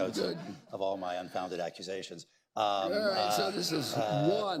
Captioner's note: laughter